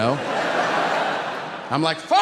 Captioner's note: audience laughing